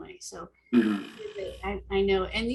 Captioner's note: chattering